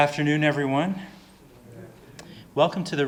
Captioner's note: audience murmuring